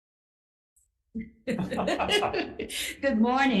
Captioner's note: laughing